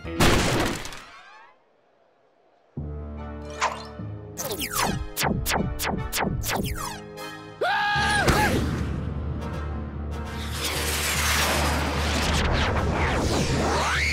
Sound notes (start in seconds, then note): 0.2 crash; 7.6 yells